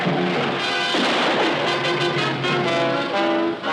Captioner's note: gun firing